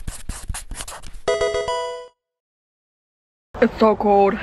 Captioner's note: pencil writing; pokemon sound effect